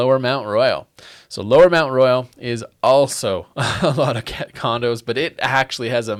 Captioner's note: laughs